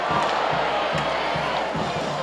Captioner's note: cheering